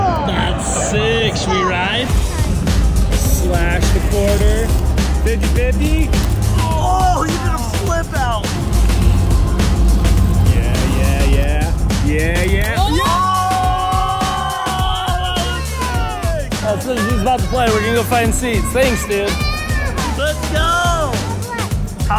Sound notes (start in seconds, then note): 12.8 family clamoring